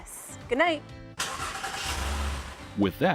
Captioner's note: engine starts